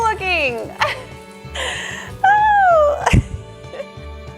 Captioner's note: laughs